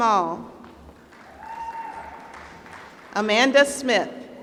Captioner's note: applause